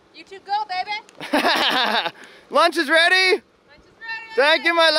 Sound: laughs

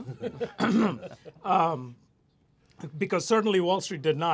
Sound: laughter

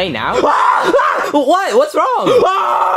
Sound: Mario yells; all yelling

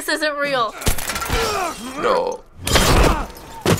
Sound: glass shatters

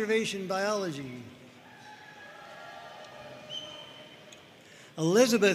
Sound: audience cheering

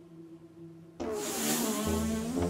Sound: fart

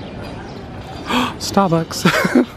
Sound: gasps; laughs

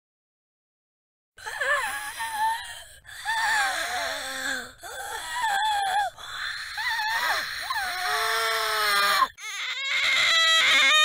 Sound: sound of screeching nazgul

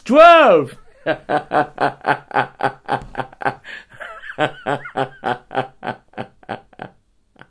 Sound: laugh

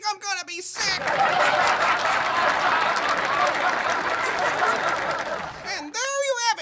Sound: laughter/applause

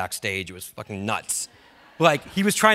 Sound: audience laughs

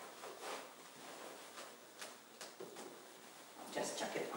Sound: cloth rustling

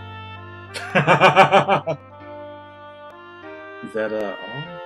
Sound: laughs

